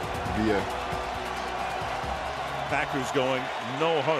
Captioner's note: crowd cheers